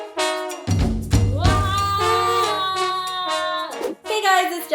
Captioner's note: yelling